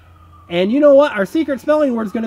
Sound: voiceover

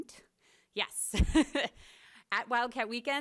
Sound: laughs

